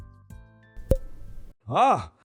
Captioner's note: loud pop